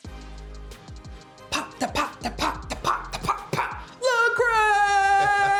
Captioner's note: imitating drums; laughter